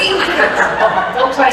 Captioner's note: laughter